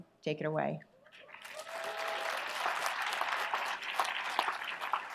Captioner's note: audience applauds